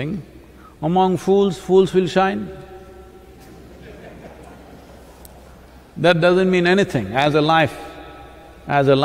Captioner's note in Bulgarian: Смях